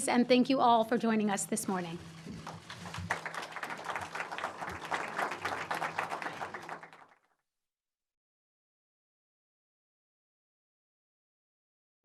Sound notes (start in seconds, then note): 2.2 audience applauding